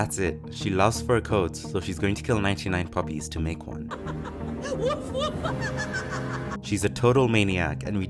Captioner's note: evil laugh